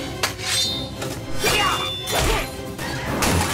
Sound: grunting

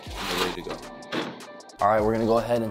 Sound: oven door clangs

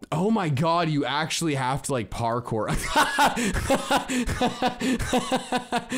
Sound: laughs

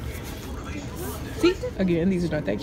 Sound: murmuring

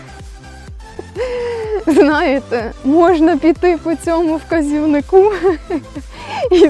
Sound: laughs

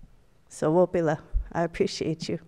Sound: speaks Native foreign language

